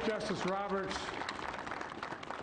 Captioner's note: cheers and applause